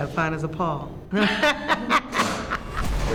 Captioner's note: chuckling